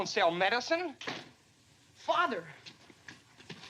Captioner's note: door opens